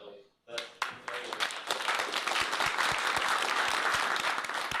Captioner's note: applause